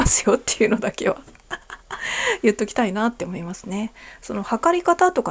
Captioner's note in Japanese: 笑い